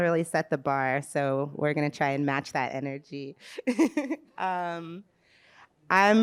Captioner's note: laughs